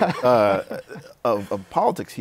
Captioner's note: laughs